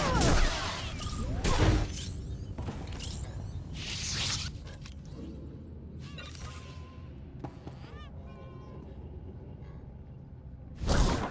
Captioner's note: gunshots